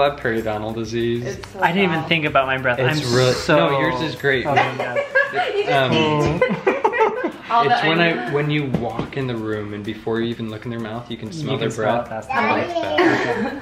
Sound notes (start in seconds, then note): 7.0 laughing